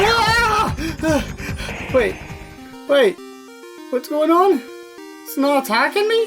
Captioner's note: breaths